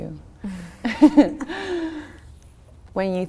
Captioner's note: both laughing